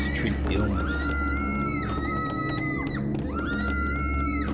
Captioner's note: screaming